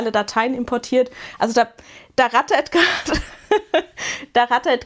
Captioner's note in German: gelächter